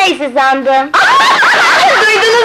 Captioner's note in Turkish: Kahkahalar